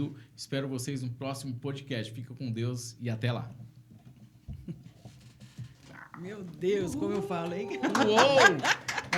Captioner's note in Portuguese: risadas